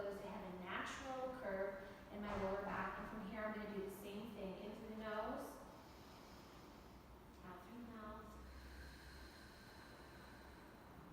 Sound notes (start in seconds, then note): 5.8 inhales; 8.3 exhales